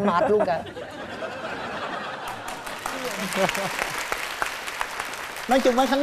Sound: laugh and then applause

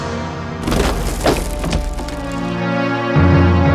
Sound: branch rumble

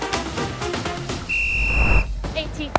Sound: whistle blowing

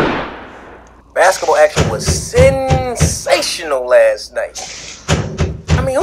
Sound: gun shot; radio station FX; knocking on door; radio

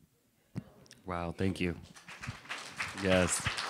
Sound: applause

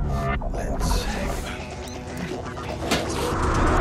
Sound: sniffing

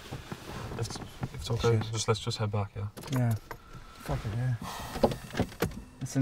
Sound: Andy sighs

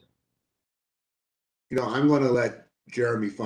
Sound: A pause

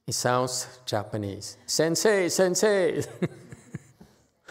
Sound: laughs

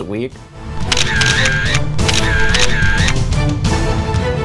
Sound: camera snapping; intense music

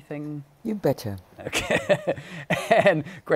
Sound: laughing

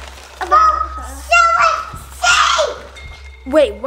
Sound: shouting

